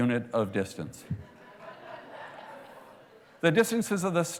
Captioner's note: laughter